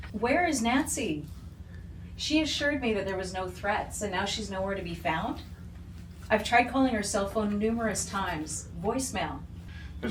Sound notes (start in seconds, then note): none